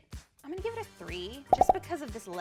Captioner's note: popping